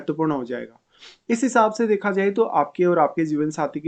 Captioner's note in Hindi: नाक से की जाने वाली आवाज़